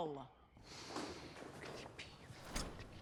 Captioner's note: whispering